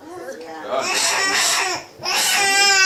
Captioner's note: baby crying